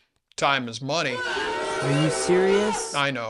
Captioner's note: booo!